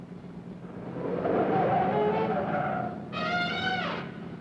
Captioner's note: tires screeching